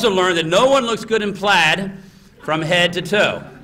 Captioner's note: laughter